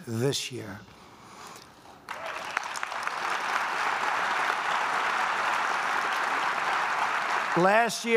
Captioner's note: applause